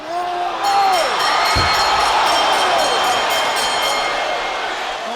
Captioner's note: bell dinging